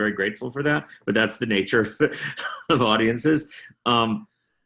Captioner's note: chuckling